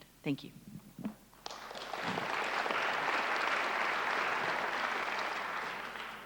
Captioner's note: applause